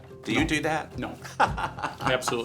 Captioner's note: laughter